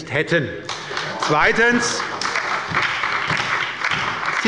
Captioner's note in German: Beifall bei der SPD und der LINKEN